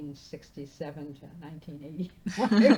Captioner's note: laughing